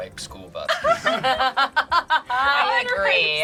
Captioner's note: group laughs